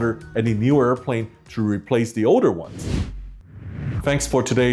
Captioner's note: whooshing